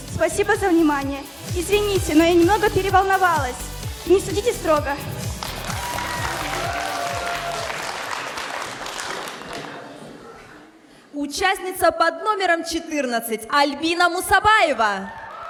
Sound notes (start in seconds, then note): 5.3 applause